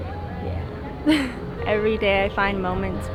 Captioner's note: chuckles